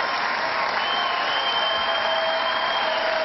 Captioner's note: cheering